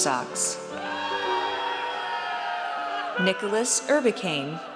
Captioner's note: audience cheers